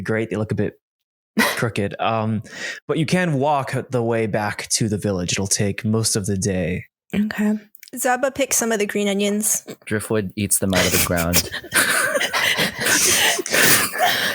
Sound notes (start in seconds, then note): 12.4 laughter